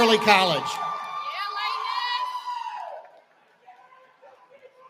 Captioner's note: cheering